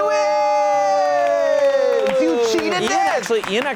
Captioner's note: cheering